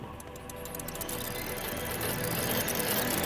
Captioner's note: gears rattling